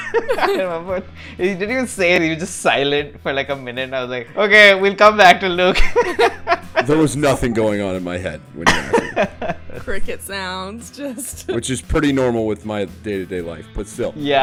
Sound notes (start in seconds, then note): 0.0 laughter; 5.7 laughter; 8.6 laughter